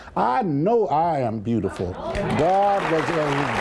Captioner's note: applause